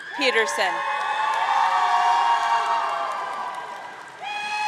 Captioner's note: audience cheering